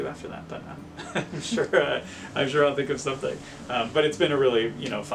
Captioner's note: he laughs